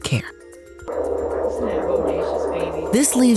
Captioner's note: fetal heart beat